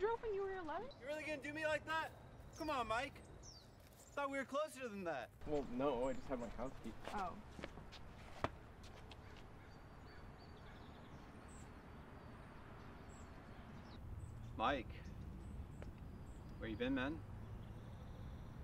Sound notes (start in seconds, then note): 1.1 still shouting; 7.7 stomps